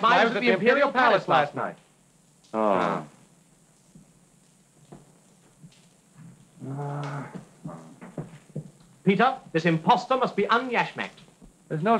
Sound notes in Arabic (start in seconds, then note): 6.5 يتأوه